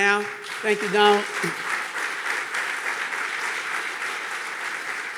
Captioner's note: audience clapping